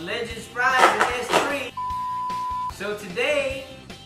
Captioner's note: beep